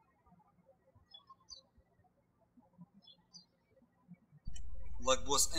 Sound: birds chirping

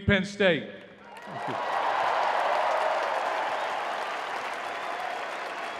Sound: crowd cheering

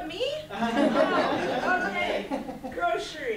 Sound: students laughing

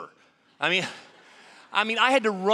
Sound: audience laughing

